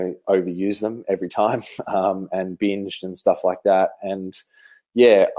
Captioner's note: laughs